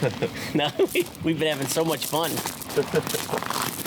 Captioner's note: laughing; laughing